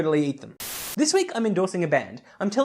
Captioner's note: Static